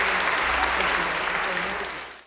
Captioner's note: speaking off microphone